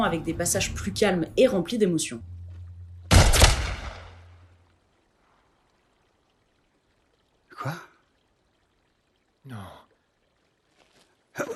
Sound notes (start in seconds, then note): 3.1 gunshot